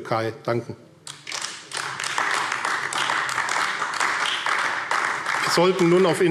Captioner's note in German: Beifall AfD